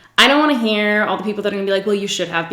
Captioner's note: none